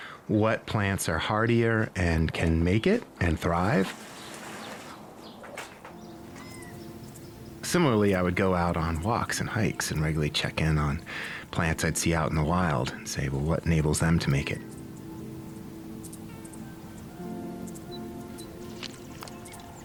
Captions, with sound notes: what plants are hardier and can make it and thrive. [nature sounds] Similarly, I would go out on walks and hikes and regularly check in on plants I'd see out in the wild and say. Well, what enables them to make it? [nature sounds]